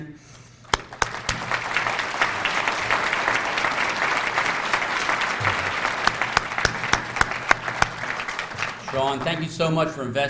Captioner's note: applause